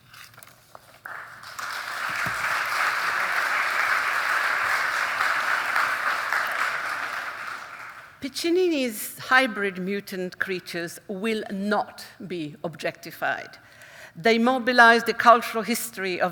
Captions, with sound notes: (audience applauding) - Piccinini's hybrid mutant creatures will not be objectified. They mobilise the cultural history